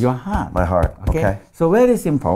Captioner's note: thumping